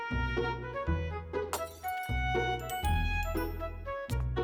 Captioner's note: crack!